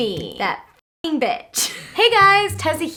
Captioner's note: laughs